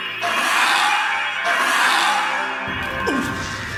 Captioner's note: dinosaur squawking; Luna grunting